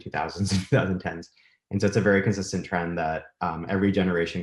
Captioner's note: chuckles